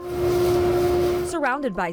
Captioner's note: duster blowing